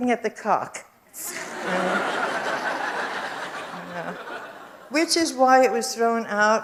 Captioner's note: audience laughs